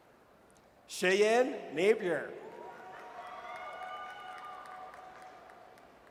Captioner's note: audience cheers